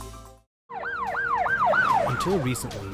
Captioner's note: ambulance siren rings